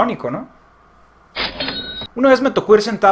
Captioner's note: cash register sound